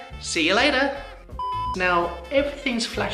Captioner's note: beep